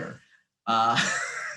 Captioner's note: chuckle